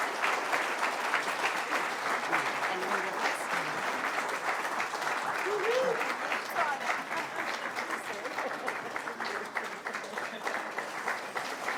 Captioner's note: laughter